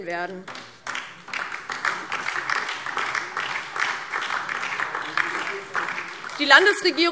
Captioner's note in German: Beifall DIE LINKE und SPD